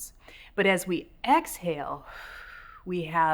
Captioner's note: exhales